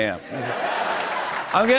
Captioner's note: laughter and applause